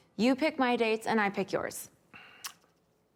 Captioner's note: clicks tongue